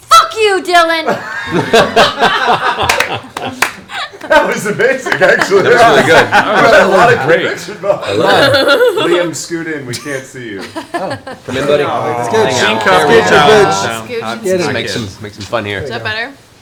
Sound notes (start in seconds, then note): 1.1 all laugh; 8.9 laughs